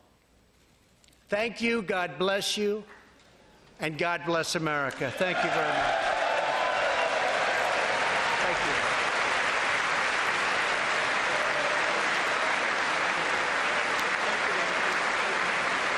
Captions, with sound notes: HOPE AND THE PROMISE AND THE LIGHT AND THE GLORY AMONG ALL THE NATIONS OF THE WORLD. THANK YOU. GOD BLESS YOU, AND GOD BLESS AMERICA. THANK YOU VERY MUCH. [APPLAUSE]